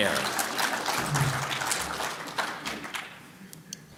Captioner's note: applause